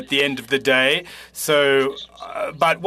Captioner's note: speaking French